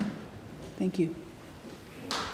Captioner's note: applause